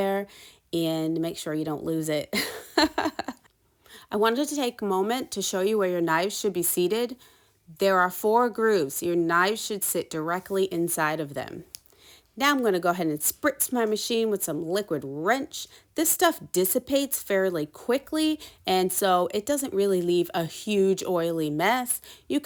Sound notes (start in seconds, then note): 2.3 chuckles